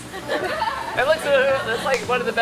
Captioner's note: laughing